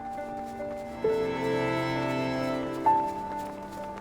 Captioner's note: snow crunching